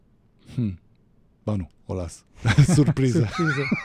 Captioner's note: laughter